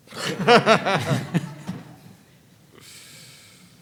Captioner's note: all laughing